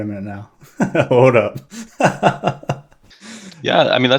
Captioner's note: laughs